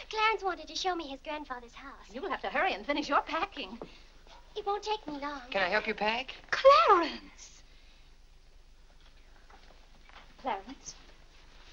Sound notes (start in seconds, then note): none